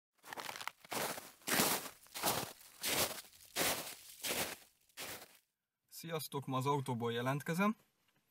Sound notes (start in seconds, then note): 0.2 snow crunch